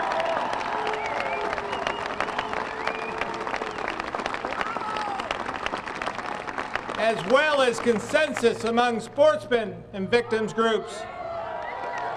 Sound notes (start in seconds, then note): 0.0 applause; 4.4 cheers and boos